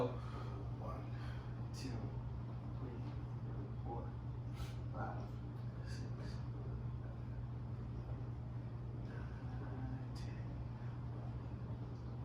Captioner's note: softly counts to 15